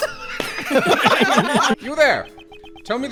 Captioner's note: laughter